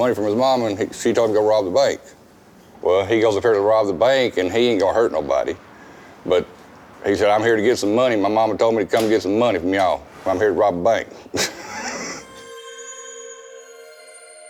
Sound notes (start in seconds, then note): 11.3 laughs; 11.8 eerie music